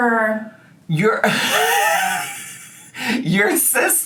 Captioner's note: laughing